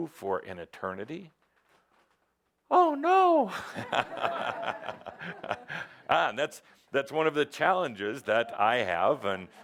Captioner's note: he says it in a funny voice, then laughs